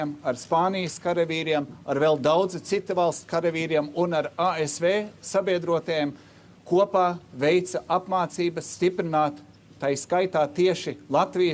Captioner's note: speaking Alternate Language